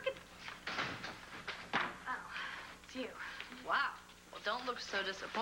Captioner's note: door opens